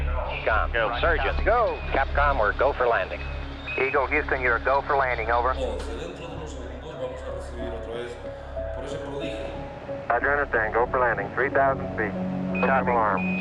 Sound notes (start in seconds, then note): 5.4 TV playing in background